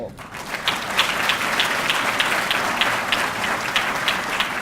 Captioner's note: audience clapping